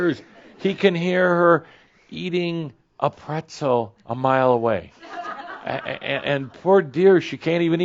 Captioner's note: more chuckles